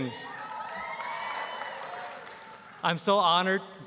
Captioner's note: applause, cheering